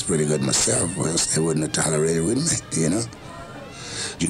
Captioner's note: laughs